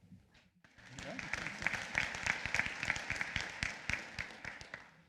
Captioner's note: applause